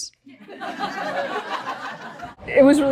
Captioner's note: audience laughs